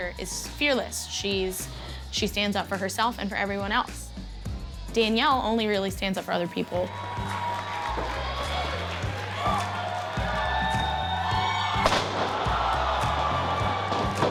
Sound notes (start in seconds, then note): 6.8 audience cheers